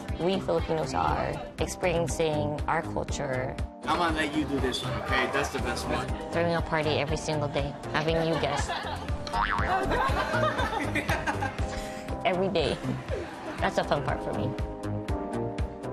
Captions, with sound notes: we Filipinos are, experiencing our culture. -I'm going to let you do this one, okay? That's the best part. -Throwing a party every single day, having new guests. [Boing!] [ Laughter ] Every day. That's the fun part for me.